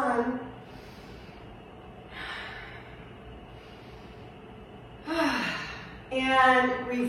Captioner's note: exhales; inhales; exhales; inhales